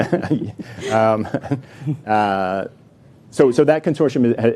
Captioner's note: laughing